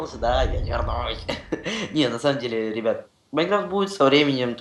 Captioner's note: epic voce